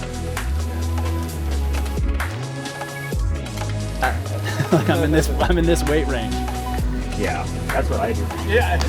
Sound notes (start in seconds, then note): 4.4 man chuckling